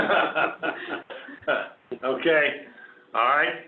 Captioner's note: laughter